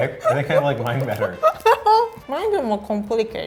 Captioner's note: laughing